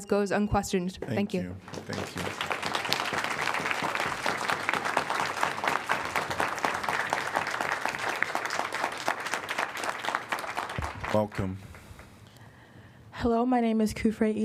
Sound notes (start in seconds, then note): 5.2 applause